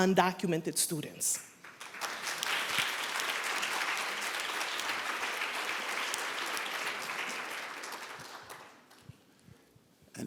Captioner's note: applause